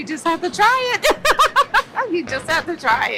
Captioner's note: laughs